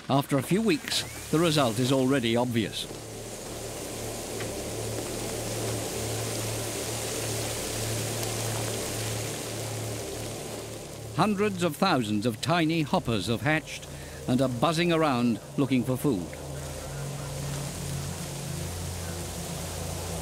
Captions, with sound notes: After a few weeks, the result is already obvious. [locusts hissing] Hundreds of thousands of tiny hoppers have hatched and are buzzing around looking for food. -[intense buzzing] -[heavy winds]